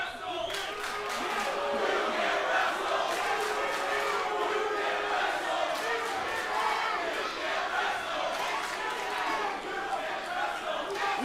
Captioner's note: crowd cheering